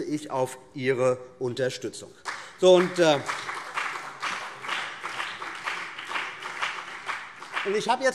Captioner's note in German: Beifall BÜNDNIS 90/DIE GRÜNEN und vereinzelt CDU